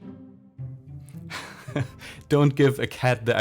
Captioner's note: laughs